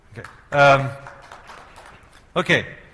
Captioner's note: applause